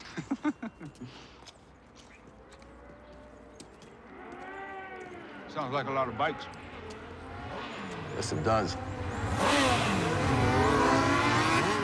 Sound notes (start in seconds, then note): 0.0 laughing; 2.6 motorcycle engines